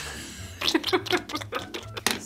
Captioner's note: squishy sounds